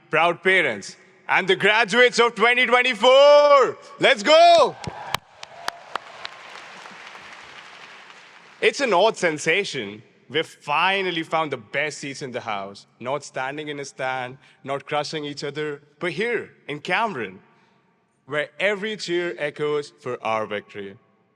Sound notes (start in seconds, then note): 4.8 audience claps